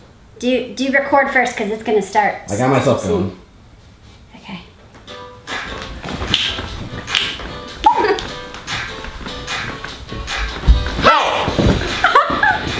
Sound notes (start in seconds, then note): 2.6 voiceover; 5.1 upbeat music